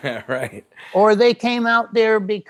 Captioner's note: chuckles